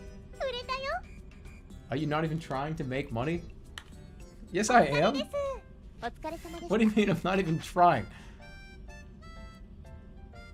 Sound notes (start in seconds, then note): 6.2 holding out laugh